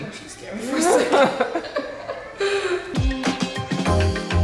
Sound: laughing; upbeat music

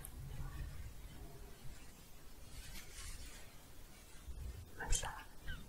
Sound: shuffling

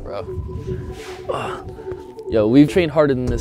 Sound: exhaling

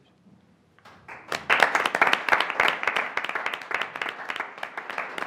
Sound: applause

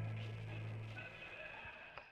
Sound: ever-so faint cannibal butchering screams in the distance

